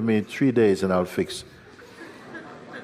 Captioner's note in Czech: smích